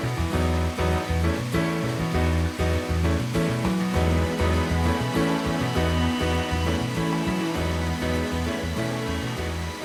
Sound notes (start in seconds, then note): 3.4 following the clear sound of water flowing in between the stones